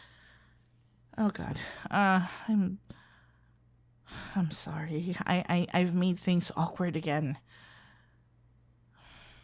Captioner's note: defeated sigh